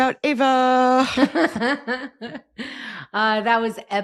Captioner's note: laughing